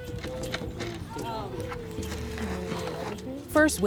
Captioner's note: calm instrumental music; people chattering